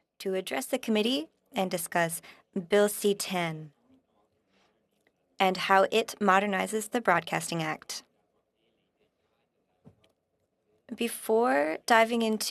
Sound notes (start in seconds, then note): 1.5 speaking French